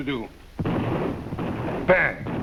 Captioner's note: gunshot firing